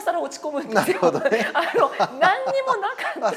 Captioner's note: laugh